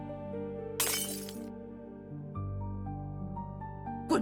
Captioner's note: smash